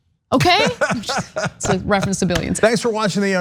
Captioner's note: laugh